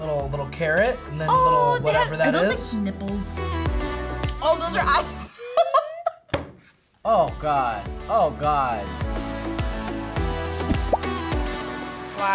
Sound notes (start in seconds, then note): 5.3 laughs